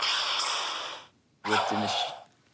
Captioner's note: whip lash